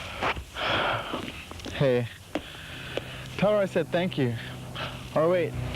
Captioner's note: sighs